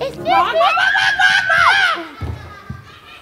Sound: chicken screeching; laughter

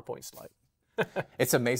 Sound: chuckles

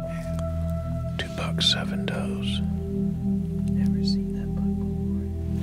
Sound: whispering

